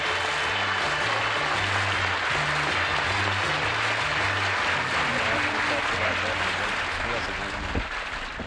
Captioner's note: applause